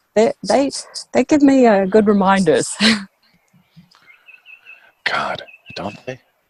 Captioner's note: chuckles